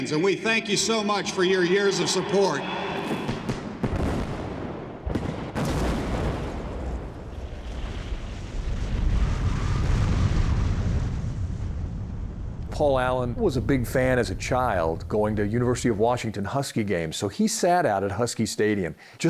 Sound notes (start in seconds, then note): 5.8 building explodes